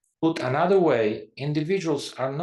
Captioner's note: none